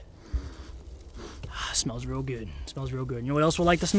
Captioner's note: sniffs